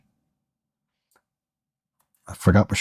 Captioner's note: silence